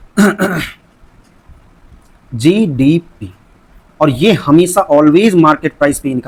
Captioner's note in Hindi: खांसने की आवाज़; गला साफ़ करने की आवाज़